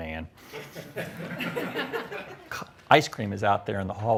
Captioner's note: audience laughs